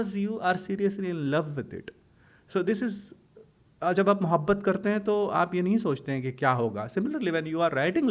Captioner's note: hindi